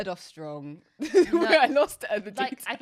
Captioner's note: laughs